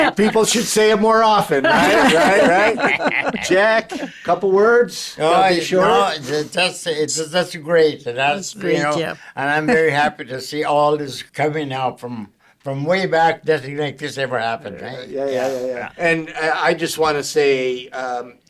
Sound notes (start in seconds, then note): 0.0 all chuckling; 9.4 chuckling